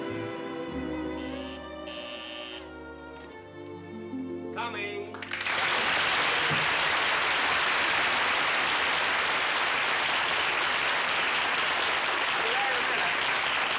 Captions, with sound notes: [DOORBELL] Coming. I'll be there in a minute.